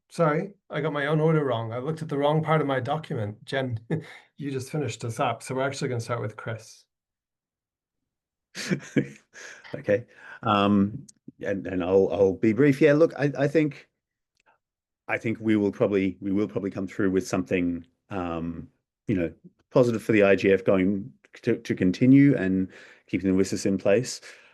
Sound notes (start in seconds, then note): 3.7 chuckles; 8.6 laughs